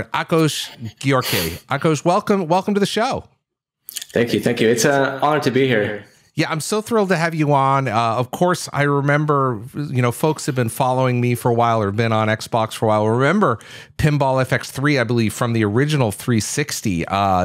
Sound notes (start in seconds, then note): none